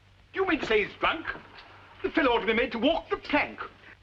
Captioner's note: none